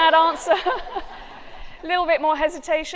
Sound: laughter

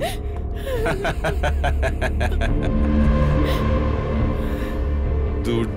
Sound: laugh

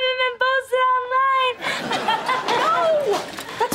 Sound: laughing

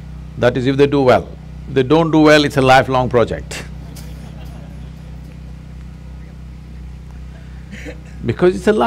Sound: laughter

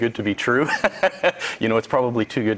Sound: laughs

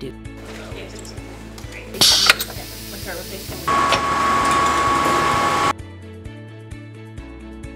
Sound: sound of machinery

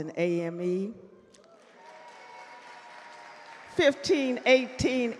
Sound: audience cheer and clap

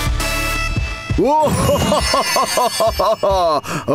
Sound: chimes

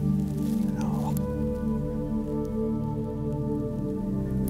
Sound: whispering

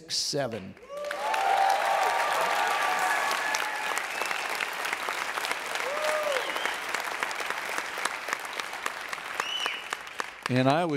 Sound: audience Cheers

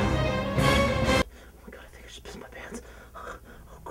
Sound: whispers again

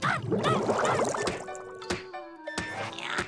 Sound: banging

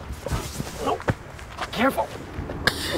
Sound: dad groans; sobs

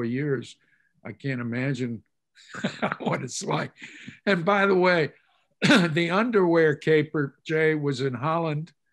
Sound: laughs

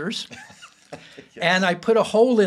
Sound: both laughing

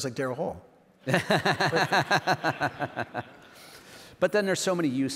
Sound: laughs

